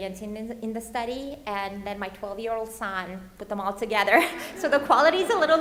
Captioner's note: laughs